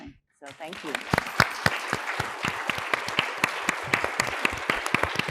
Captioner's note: audience applauding